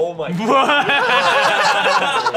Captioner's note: everyone laughs